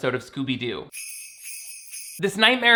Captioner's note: bells jingling